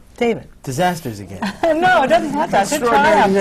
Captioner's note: laughter